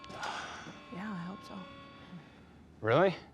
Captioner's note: sighs